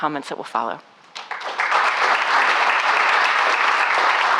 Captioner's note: claps